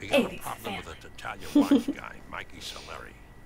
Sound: laughter

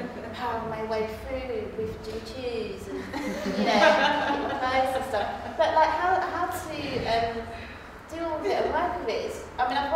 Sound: laughter

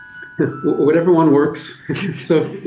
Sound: laughter

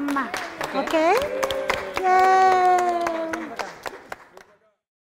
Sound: applause

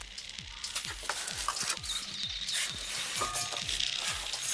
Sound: birdsong

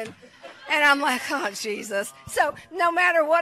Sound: congregation laughs

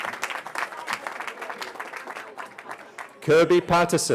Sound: cheering

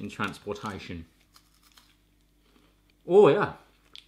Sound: crunches

